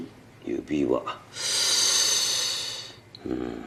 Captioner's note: inhales sharply